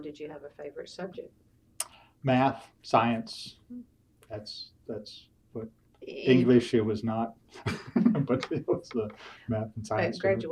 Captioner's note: laughs